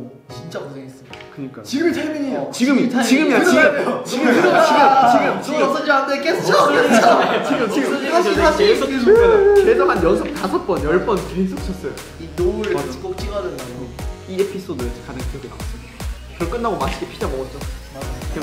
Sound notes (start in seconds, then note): 8.8 sobbing